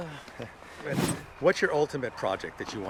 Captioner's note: air whooshes